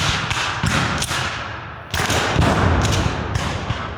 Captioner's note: guns fire